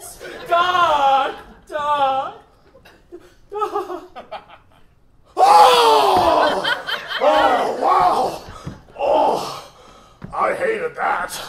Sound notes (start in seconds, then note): 5.4 Doc screams as he comes